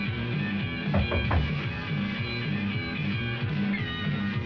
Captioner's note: knocking